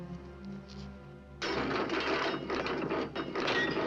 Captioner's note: mechanism rattling; bang